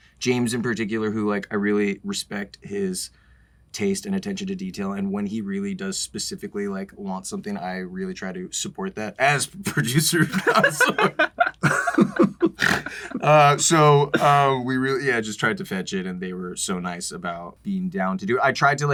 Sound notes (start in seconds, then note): 10.2 laughter; 12.5 snorts